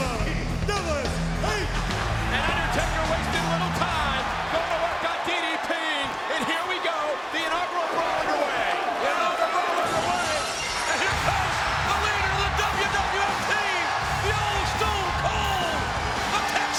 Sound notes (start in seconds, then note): 10.8 glass breaking